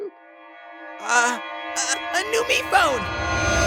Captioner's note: stammering